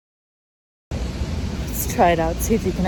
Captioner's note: factories & wind whirr